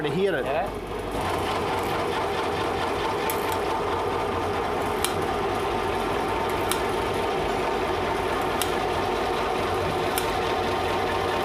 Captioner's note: machine whirring loudly